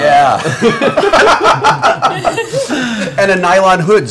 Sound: laughter

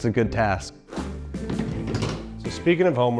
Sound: flooring clinking

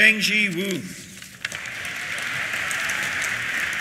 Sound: applause; cheers

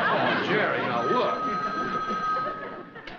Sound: phone ringing

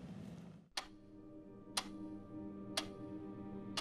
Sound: clock ticking

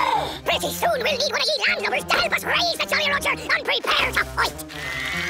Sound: speaking fast forward

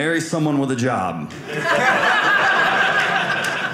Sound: audience laughing

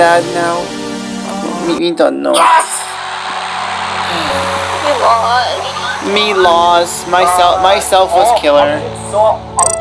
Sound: sigh

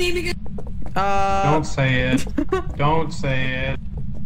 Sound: laughs

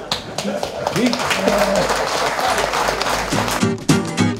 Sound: applause

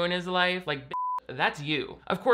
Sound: beep

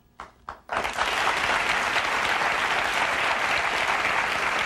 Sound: audience applauding

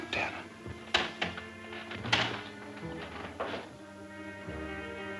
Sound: chair creaks

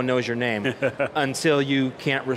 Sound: laughs

